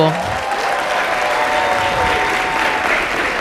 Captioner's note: applause